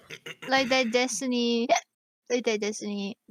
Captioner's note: hiccup